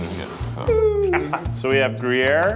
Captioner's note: laughs